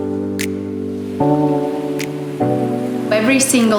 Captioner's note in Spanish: Música relajante con chasquidos de dedos; olas rompiendo